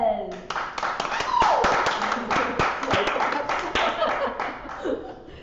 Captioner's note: audience applauds